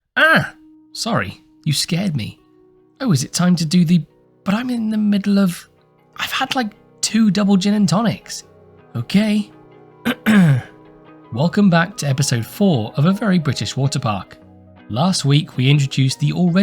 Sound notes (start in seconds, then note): 10.0 clears throat